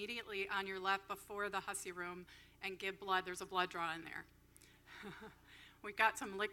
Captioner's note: laughs